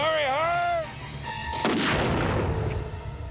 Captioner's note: gunshot